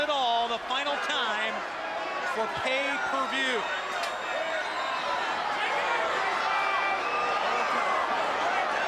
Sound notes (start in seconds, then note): 4.3 crowd cheering; 5.6 crowd chatter